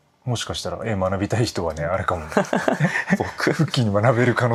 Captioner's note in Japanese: 笑い